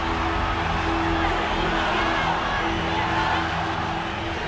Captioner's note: crowd chanting